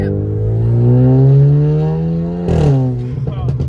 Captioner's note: engine revving